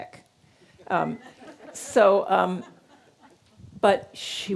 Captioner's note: audience laughing